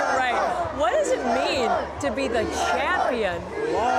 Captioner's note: chanting